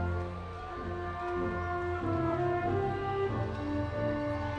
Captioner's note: audience cheering